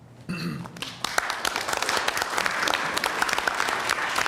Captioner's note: applause